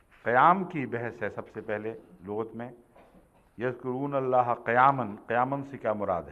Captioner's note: Arabic